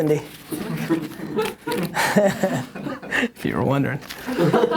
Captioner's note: chuckling